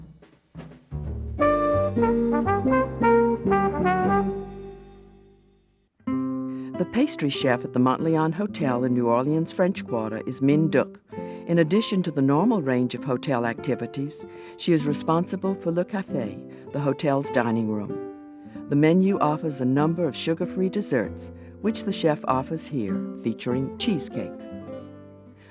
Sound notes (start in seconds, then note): 0.6 lively music; 6.5 voiceover